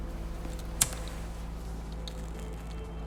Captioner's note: lighter clicks